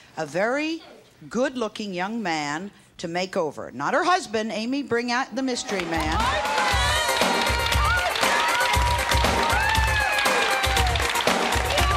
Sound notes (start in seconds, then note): 5.7 audience applauds and cheers; 8.9 engaging music